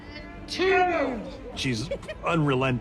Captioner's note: all shout